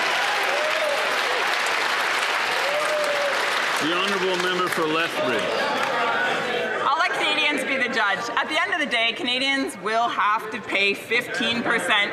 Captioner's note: some Applause